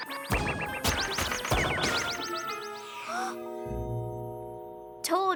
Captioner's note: gasps